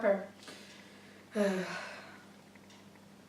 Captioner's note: dejected sigh